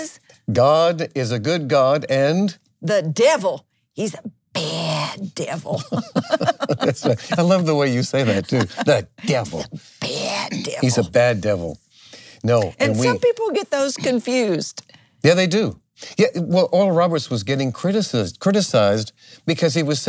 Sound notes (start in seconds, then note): 5.6 laughs